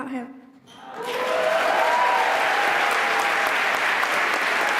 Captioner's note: applause